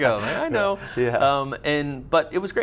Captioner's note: laughs